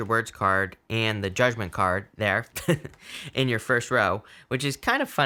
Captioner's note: laughing